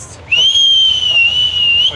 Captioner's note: whistling